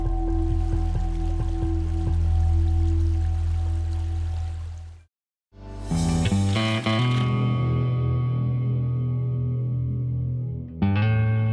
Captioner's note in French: bruit du ruisseau